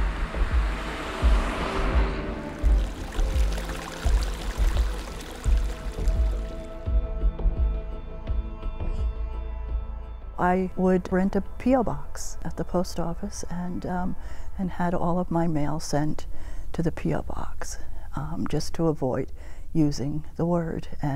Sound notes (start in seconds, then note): 0.0 truck passing; 2.3 stream flowing; 3.6 light tense music